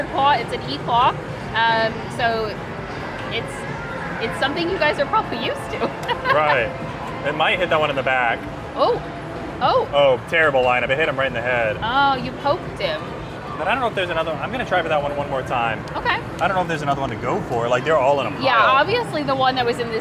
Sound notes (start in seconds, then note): 5.8 laughs